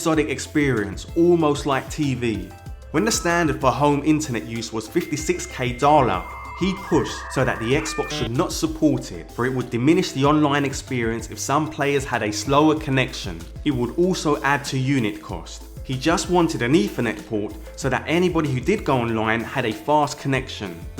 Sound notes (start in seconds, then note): 6.0 modem sound